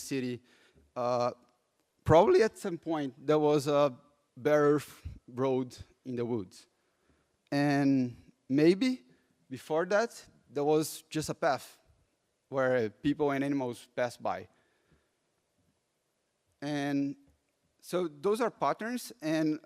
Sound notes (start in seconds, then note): none